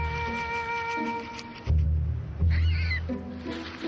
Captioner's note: grass rustling